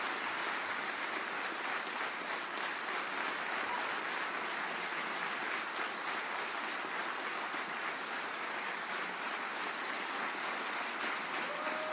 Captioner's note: applause